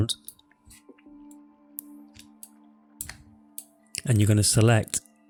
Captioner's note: clicks on mouse